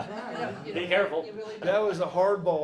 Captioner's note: laughs; audience laughs